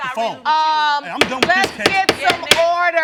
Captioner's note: bangs gavel